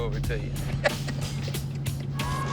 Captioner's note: laughing